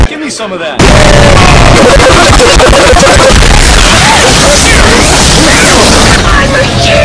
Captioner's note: mechanical mayhem that hates ears